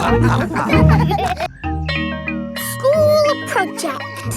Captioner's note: all laughing; school bell rings